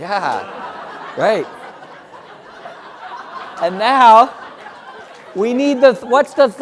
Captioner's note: laugh